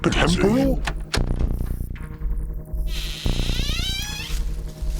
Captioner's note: door opening